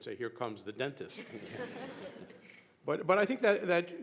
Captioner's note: chuckling; panelists and audience laughing